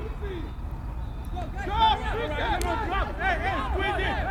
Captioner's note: field chatter